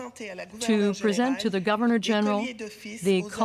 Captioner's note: speaking French